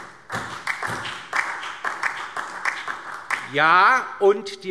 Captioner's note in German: Beifall DIE LINKE und vereinzelt SPD